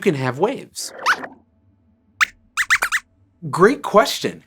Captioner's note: squeaks squeaks